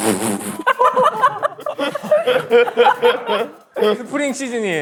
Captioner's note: bursts out laughing